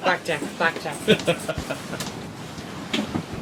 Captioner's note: laughter